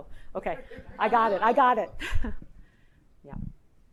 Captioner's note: laughs